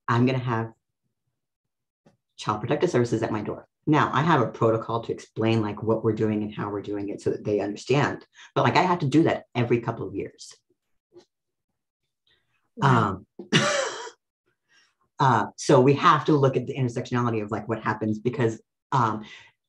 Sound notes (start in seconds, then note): 14.0 laughs